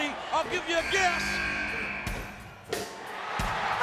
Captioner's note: buzzer sounding; slow swaggering rock music